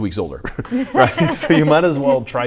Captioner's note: laughs